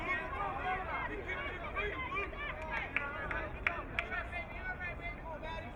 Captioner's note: crowd muttering